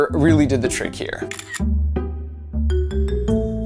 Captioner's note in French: bruit d'appareil photo